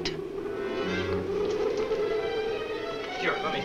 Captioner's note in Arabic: عواء الرياح المكتوم